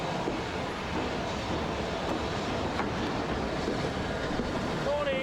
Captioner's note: train passes